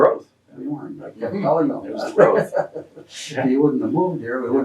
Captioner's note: both laugh